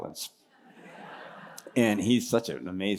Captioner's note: laughter